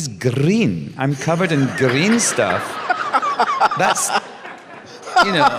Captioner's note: laughter